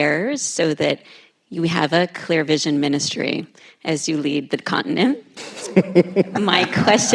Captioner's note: laughter